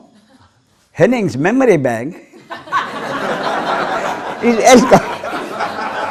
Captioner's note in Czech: smích